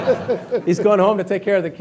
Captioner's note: laughing